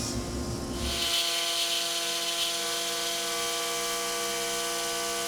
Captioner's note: driller whirring continues